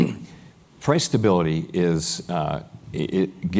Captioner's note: cough